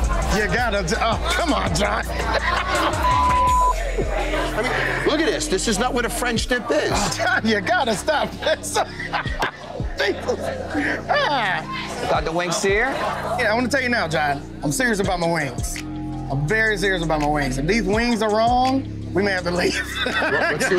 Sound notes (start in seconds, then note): 2.8 laughs; 11.1 laughs